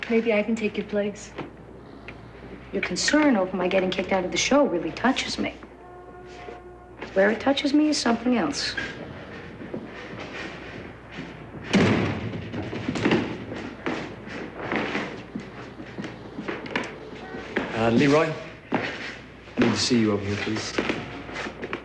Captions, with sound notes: MAYBE I CAN TAKE YOUR PLACE. YOUR CONCERN OVER MY GETTING KICKED OUT OF THE SHOW REALLY TOUCHES ME. WHERE IT TOUCHES E IS SOMETHING ELSE. (Door bangs) UH, LEROY, I NEED TO SEE YOU OVER HERE, PLEASE.